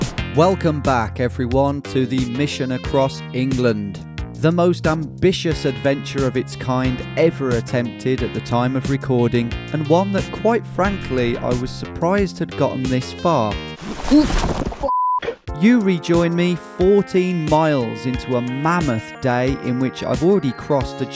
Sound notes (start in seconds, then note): 14.8 beep